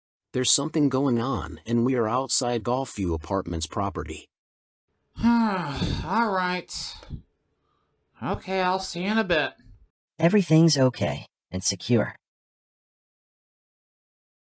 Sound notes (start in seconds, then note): 5.2 sighs